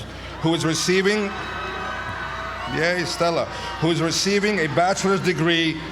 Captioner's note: applause